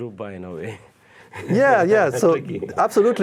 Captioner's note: laughing